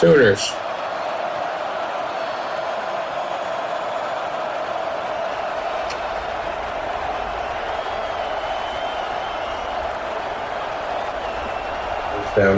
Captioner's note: crowd Noises